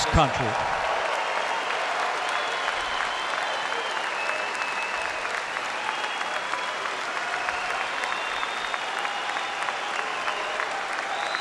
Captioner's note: applause